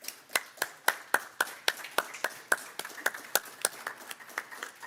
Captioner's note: clapping continues